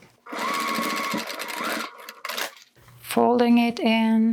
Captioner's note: sewing machine whirring